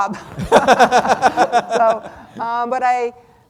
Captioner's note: everyone laughing